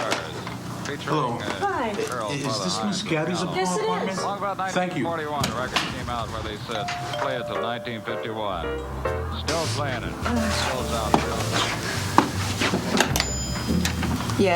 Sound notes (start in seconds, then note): 6.8 doorbell rings; 11.4 soft music